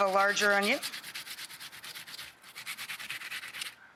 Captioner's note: grating